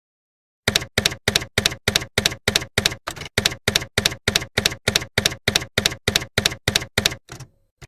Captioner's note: typewriter keys clacking